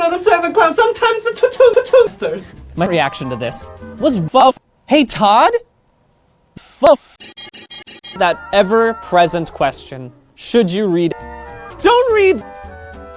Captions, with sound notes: the servant clown sometimes-a to two patoosters! My reaction to this was FUF. Hey Todd? Fuf! [Squeaky noise] That ever present question, should you read? DON'T READ!